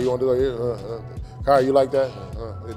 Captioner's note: grunts